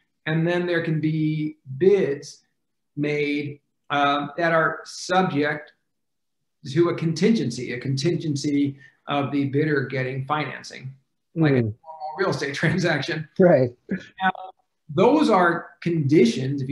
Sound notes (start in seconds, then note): 13.2 laughs